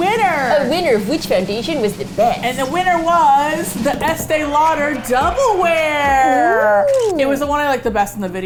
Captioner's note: silly voice; drum roll; audience cheers